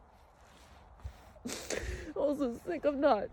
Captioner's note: sniffles deeply